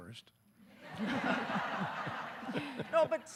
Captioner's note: audience laughing